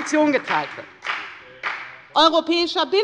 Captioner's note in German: Beifall bei der FDP